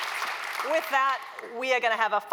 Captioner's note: applause